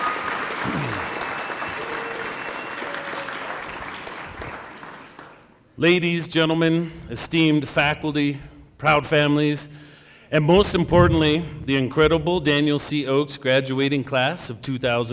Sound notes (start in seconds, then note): 0.0 cheering and applause